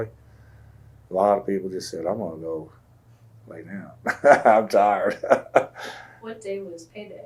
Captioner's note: laughs